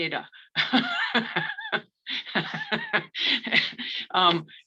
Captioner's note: laughs